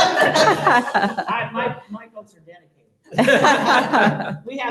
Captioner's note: laughter